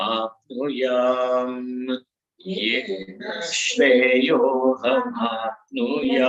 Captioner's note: sanskrit